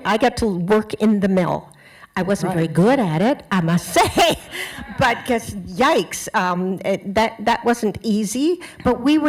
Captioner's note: laughter